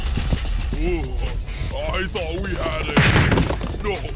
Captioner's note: sigh